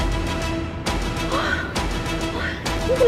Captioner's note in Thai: เสียงถอนหายใจ